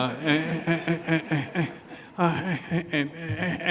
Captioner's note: audience laughing